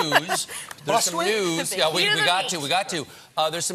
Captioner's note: laughter